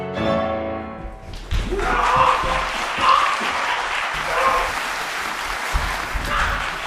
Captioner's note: doctor gasps; applause